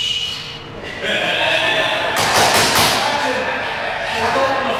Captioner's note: all laughing